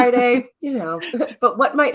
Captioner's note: chuckling